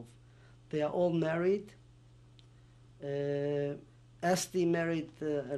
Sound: pauses for 3 seconds

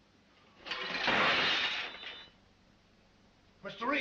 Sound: smash

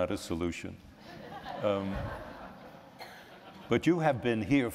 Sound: laughter

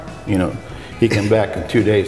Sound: laughing

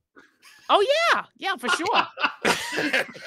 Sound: laughing

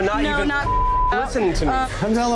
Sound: beep

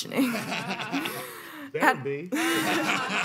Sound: panelists laughing; laughing

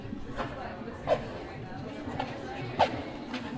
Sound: background library noise; footsteps

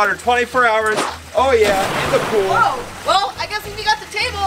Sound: water splashing

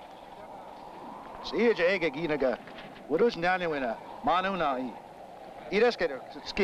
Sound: speaking in foreign language

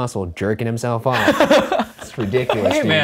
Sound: laughing

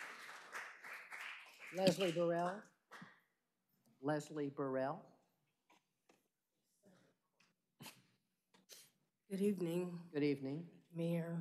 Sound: applause

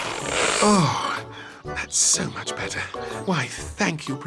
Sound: sighs

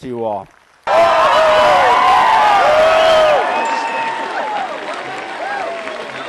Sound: shouting, cheering, and laughter

